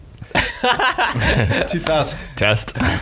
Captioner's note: laughs